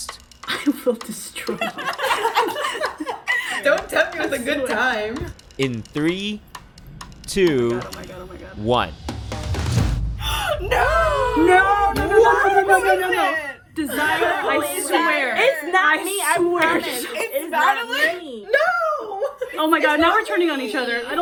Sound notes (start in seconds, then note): 0.4 women laughing; 10.2 gasping